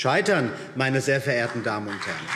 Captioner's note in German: Beifall BÜNDNIS 90/DIE GRÜNEN